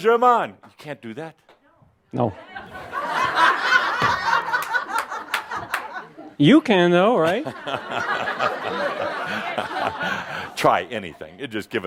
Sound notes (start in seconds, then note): 3.9 laughter; 7.4 more laughter